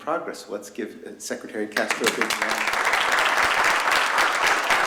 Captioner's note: applause